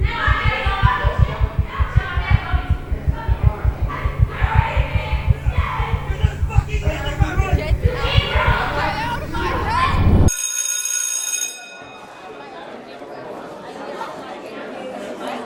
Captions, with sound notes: [heartbeat accelerates, noise builds] [shouting continues] "Get out of my house!" [school bell rings] [indistinct chatter]